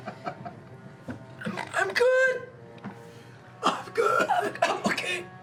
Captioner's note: wheezing